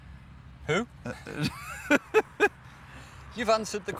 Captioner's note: laughs